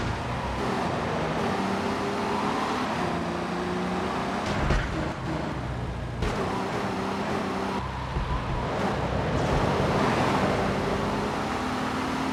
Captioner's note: sirens wailing